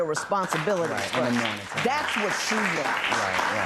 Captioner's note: applause